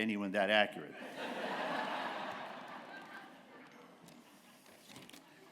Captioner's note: laughter